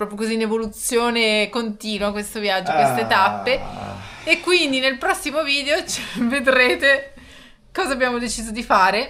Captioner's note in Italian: risate